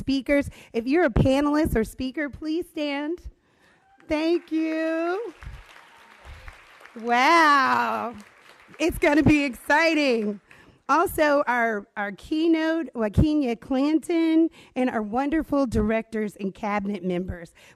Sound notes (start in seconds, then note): 3.8 applause